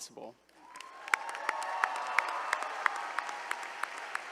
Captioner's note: all applauding